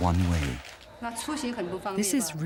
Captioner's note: speaking in foreign language